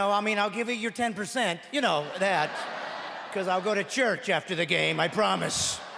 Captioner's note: laughing